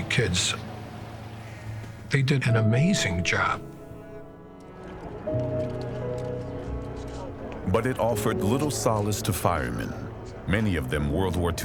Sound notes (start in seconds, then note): 5.1 bystanders chattering; 5.1 gentle solemn music